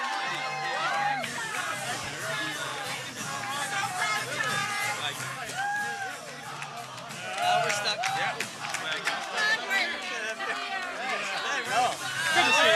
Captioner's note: cheering and Applause